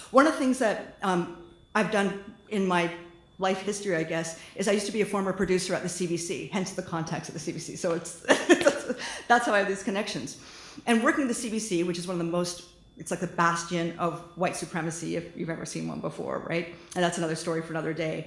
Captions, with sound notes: one of the things that I've done in my life history I guess is I used to be a former producer at the CBC hence the contacts at the CBC [laughter] that's how I have these connections and working at the CBC - which is one of the most - it's like the bastion of white supremacy if you've ever seen one before right and that's another story for another day